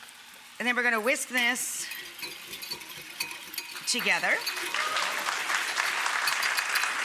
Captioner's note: audience cheering